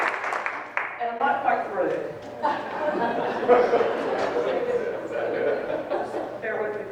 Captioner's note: people laughing